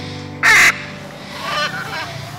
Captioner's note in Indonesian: Suara Burung